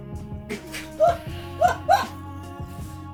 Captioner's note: laughter